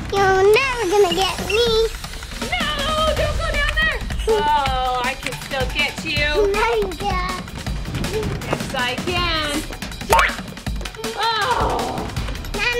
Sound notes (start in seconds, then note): 10.1 bouncing